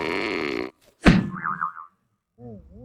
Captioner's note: groans, gasps